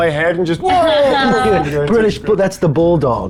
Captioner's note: group laughs